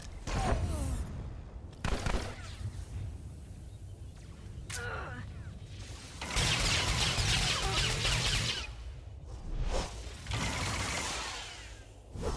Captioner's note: gunshots